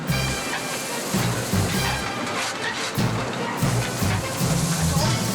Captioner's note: sounds of boiler